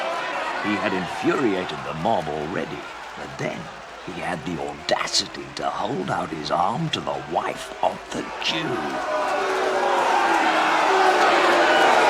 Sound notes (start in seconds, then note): 9.6 audience jeering